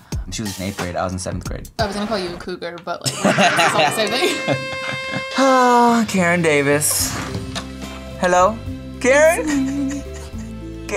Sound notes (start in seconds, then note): 3.0 laughing; 5.4 sighs